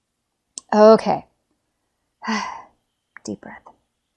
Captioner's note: sighs